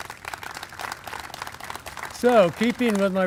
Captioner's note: applause